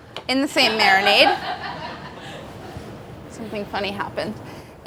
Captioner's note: laughing